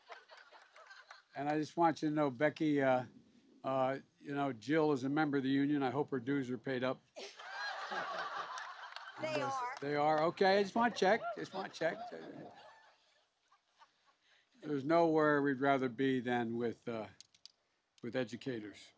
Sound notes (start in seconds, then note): 0.0 laughs; 7.2 laughter and applause